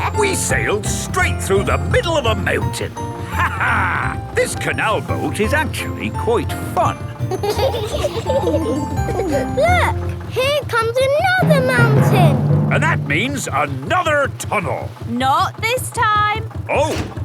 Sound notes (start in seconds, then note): 3.3 laughs; 7.1 kids giggling